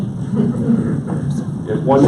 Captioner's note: audience laughs